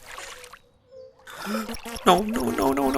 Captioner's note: gasps